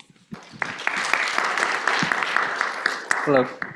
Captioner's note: applause